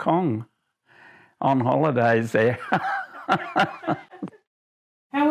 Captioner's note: laughs